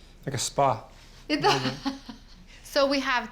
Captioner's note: laughs